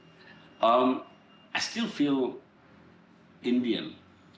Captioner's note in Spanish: none